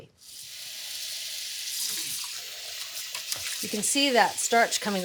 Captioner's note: water splashes